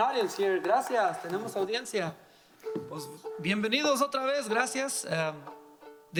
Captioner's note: speaking in foreign language